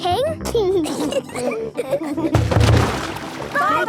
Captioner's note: giggling